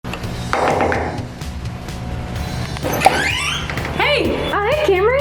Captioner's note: knock on the door